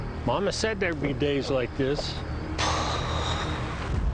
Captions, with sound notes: Mama said there’d be days like this. (loudly sighing)